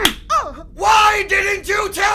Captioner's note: face being slapped